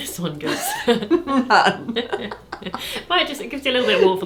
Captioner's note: laughs